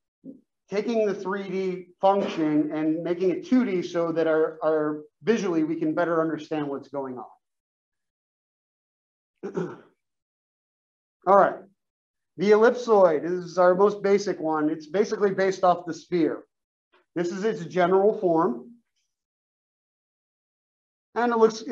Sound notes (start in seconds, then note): 9.4 cough